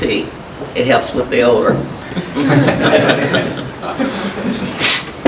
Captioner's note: chuckling